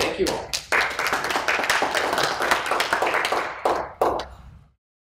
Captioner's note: applause